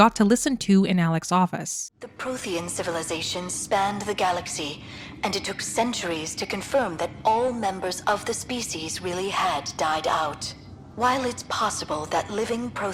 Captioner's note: Liara audio playing